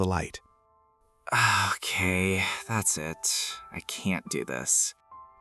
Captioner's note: sighs, removes the sleep sack, exhausted